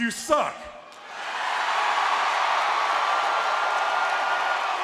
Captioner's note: audience cheering